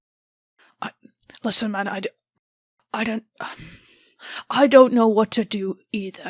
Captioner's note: sighs